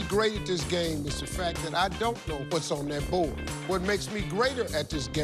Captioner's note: none